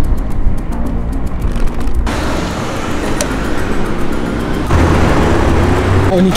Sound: engine sound

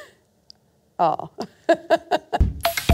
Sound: laughs

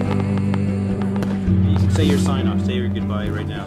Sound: firework sounds

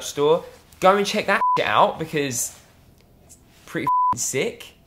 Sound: beep

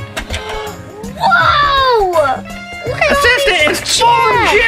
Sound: gasps

